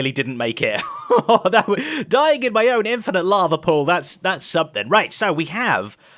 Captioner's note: laughs